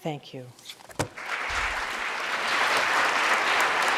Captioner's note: audience applauding